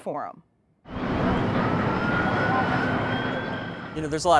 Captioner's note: wind blowing